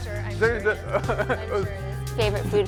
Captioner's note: laughing